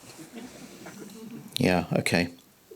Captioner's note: audience chuckles